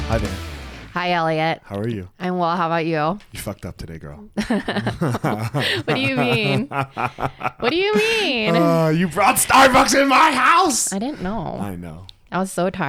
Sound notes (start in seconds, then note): 4.4 both laughing; 8.6 laughs